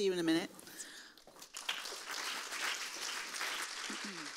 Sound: audience clapping

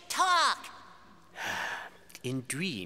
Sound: sighing

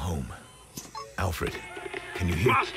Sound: implant trills

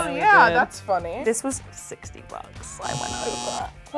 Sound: buzzer rings

